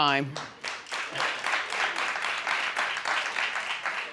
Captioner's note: audience applauding